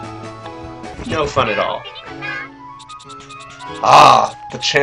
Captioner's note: several Diglett pop up offscreen